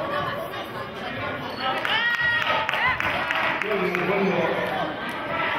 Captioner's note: cheering